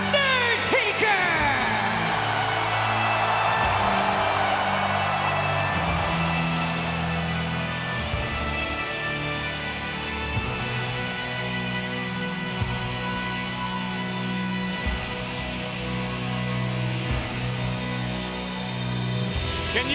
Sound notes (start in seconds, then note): 2.4 crowd cheering